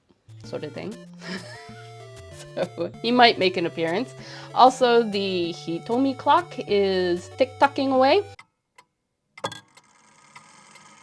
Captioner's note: uguisu song